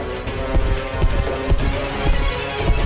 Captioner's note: heavy footsteps